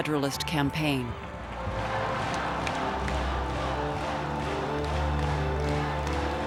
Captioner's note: crowd chanting "non"